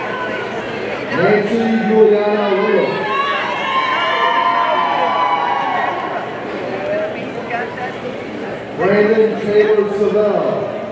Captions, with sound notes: Nancy Yuliana Rios, (audience cheering) Brandon Taylor Savell,